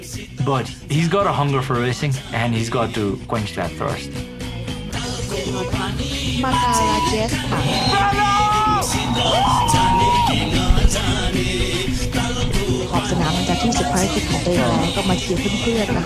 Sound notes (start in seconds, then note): 6.4 cheering; 13.2 race narration in Nepalese